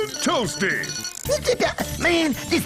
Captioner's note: free-zee stutters